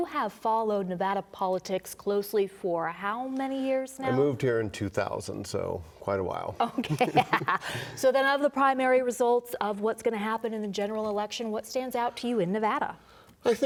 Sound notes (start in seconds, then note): 6.6 laughter